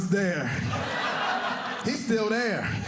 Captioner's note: audience laughing